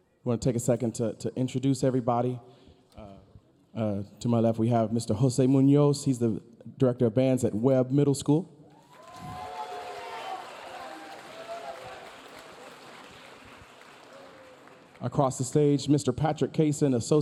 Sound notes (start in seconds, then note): 8.7 audience cheering; 8.8 audience applauding